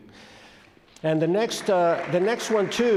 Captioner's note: audience claps